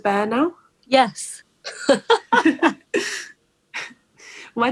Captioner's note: laughs